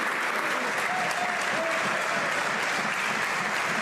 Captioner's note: some Applause